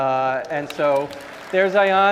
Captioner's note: audience applauding